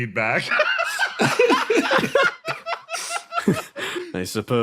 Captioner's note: laughs